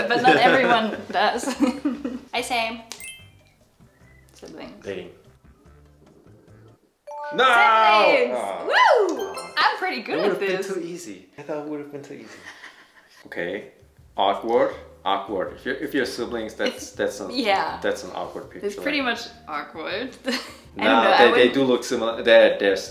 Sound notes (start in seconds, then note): 0.1 laughs; 7.0 bells